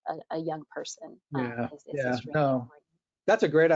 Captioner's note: faintly speaking